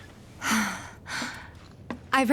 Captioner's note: sighs